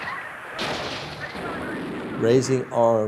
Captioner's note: gunshots continue